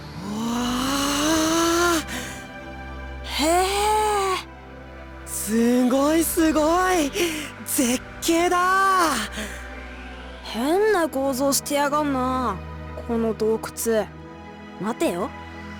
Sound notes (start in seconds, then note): 3.8 impressed hum